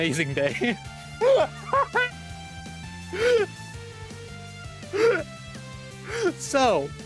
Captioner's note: unapologetically losing it laughing